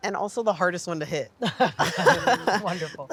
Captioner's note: laughs